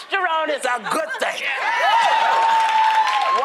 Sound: cheering; applause

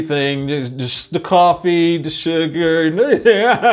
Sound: laughs

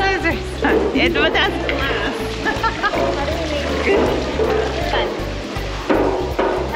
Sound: laughs

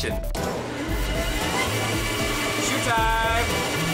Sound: motor rumbling

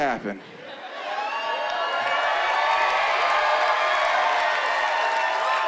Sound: cheering and whooping

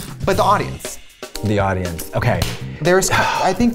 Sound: sigh

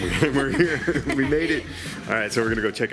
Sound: both laugh

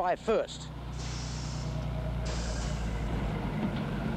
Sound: brakes hissing

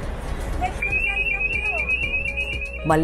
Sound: alarm sound

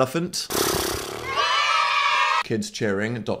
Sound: blowing raspberry; children cheering

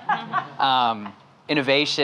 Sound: laughing

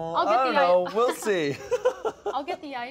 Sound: laughs

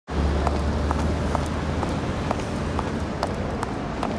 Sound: heels clinking

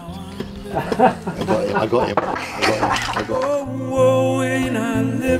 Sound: friend laughs

